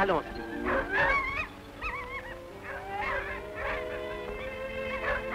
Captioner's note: barking